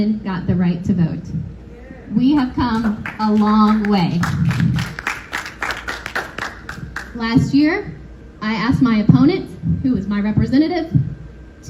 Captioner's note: applause